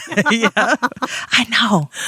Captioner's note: both laughing